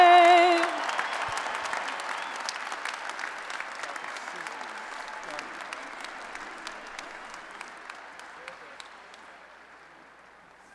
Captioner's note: applause and Cheering